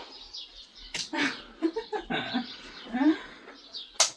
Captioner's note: laughter